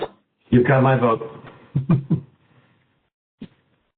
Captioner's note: laughs